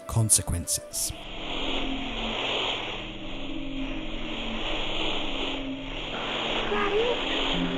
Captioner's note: distorted static